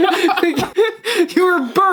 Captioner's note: laughing